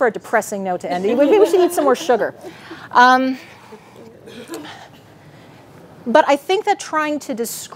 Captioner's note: audience laughing